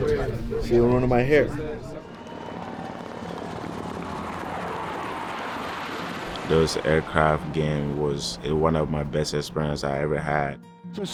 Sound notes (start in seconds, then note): 1.7 helicopters whirring; 2.9 crowd cheering